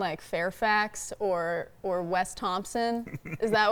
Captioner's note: laughing